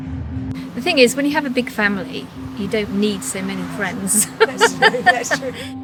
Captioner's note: laughter